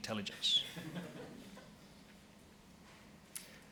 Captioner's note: laughing